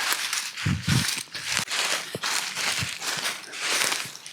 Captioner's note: leaves crunching